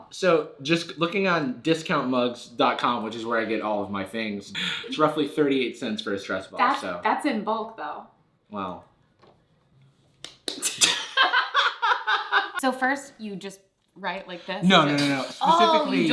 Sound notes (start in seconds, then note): 10.7 laughs